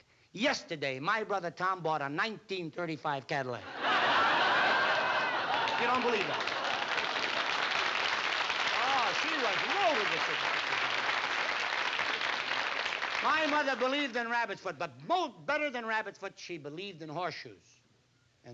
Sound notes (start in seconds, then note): 3.6 audience laughing; 6.8 audience applauding